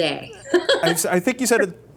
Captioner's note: laughter